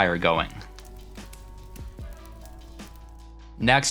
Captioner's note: fire crackling; soft music